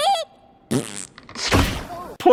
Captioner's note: fart